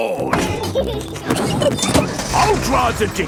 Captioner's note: peppa and george laughing